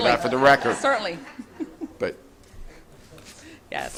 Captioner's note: audience laughing